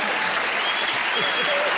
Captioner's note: cheers and applause